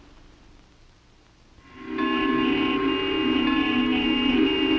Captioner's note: horns honking